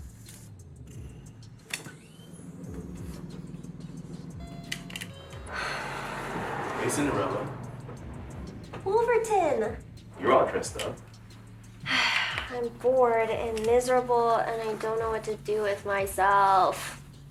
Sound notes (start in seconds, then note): 11.8 sighs